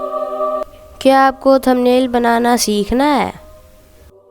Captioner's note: calm voice